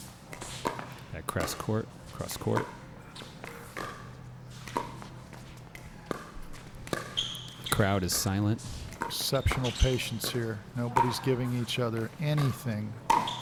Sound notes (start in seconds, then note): 3.0 shoes squeaking; 3.7 ball being hit